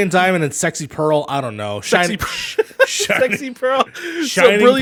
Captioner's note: laughs